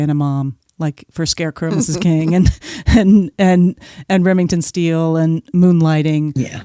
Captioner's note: chuckles